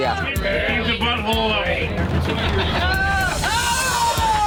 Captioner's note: patrons yelling